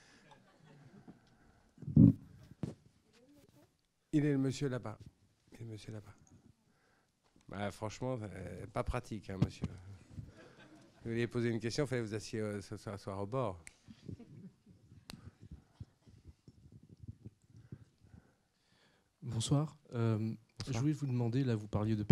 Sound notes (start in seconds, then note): 0.2 laughs; 10.3 laughs